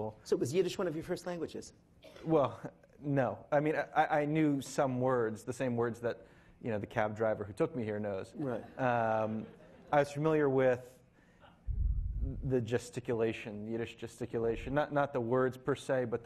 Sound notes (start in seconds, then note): 8.4 laughing